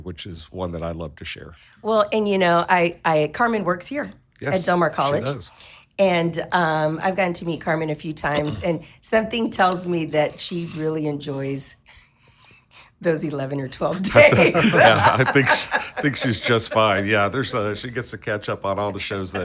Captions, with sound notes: which is one that I love to share. - Well, and you know, Carmen works here. - Yes. - At Delmar College. - She does. - And I've gotten to meet Carmen a few times. And something tells me that she really enjoys (laughing) those 11 or 12 days. - Yeah. (people laughing) - I think she's just fine. Yeah, she gets to catch up on all the shows